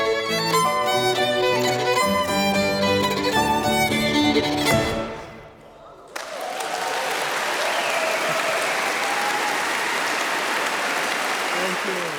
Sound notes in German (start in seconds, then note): 4.7 Fröhliche Musik; 6.0 Applaus